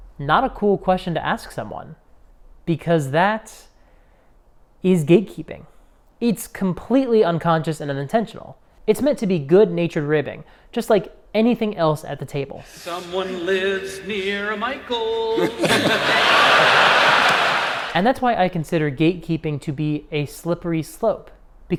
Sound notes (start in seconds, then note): 12.9 sing-songy; 15.8 audience laughs